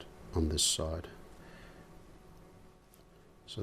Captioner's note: silence